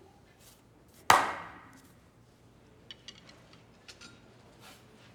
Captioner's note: Monroe clapping once